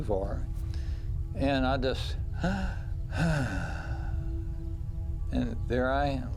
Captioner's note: sigh